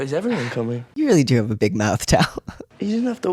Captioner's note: laugh